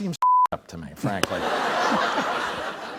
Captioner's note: laughter